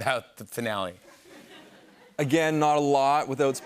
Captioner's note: laughter